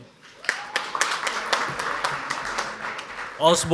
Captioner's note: audience applauds